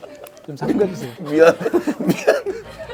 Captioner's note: haha